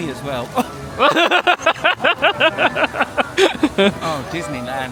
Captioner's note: laughing